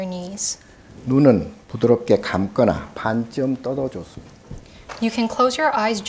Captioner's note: speaking Korean